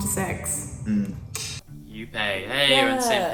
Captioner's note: clicks tongue